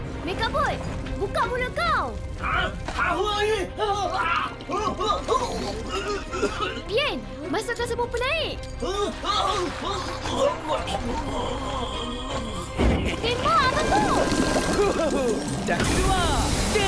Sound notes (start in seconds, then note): 9.4 MechaBot gurgling; 12.9 bubbling sounds; 16.1 extinguisher spraying